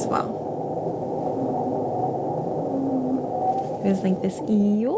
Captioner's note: whale sound